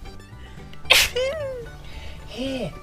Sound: Billy sneezes

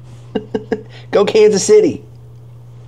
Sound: chuckles

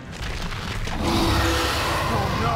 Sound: roaring

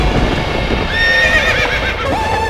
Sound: horses neighing

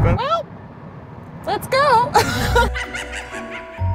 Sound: laughs; spooky laughter; creepy music

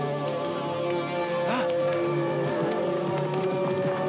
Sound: man gasps; dramatic, suspenseful music

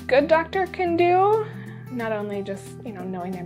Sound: exhales

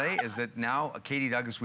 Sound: laughter

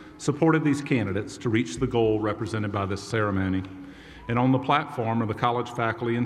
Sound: none

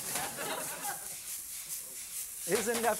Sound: sizzling

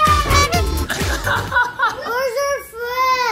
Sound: laughs

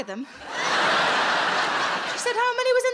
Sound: audience laughing

